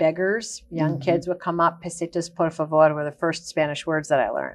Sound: speaks in Spanish

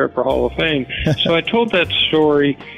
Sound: chuckle

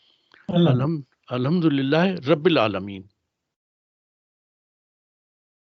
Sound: recites arabic

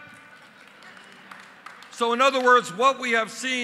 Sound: applause

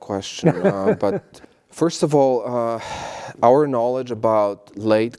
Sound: laugh

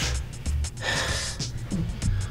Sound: breathing

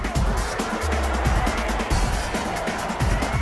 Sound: cheering

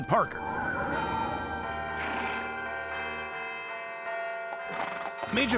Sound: church bells chime

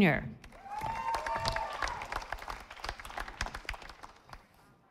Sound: audience applauding

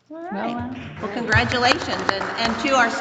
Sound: audience and board members applauding

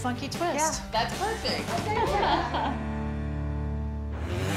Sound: laughs

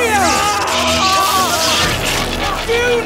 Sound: brzzzzt

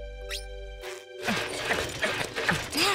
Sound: clanging

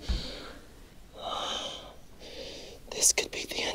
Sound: Daniel gasping

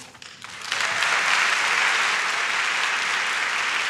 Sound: claps

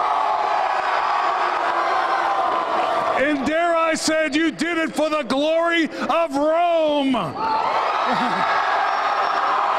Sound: cheers and applause; cheers and applause

